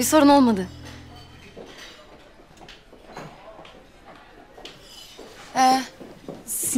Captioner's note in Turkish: Ayak sesi; Çatal bıçak sesleri